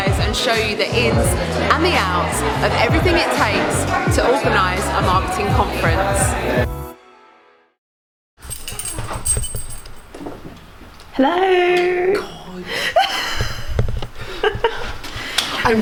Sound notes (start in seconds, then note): 8.4 keys rattling; 14.2 laughing